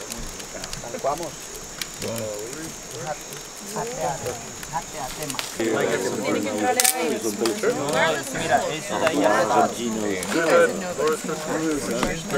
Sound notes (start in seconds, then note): 2.4 group conversing